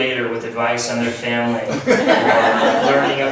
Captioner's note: laughs